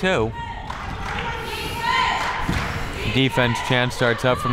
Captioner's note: cheering